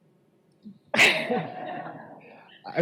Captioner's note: laughter